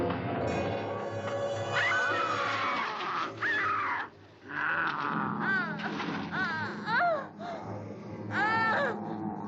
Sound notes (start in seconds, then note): 1.7 Mary screams; 1.9 werewolf growls; 6.3 Mary groans